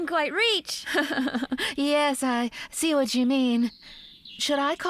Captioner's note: laughing